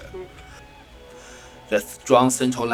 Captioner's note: breathe